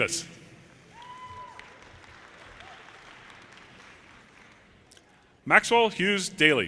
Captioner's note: audience cheers and applause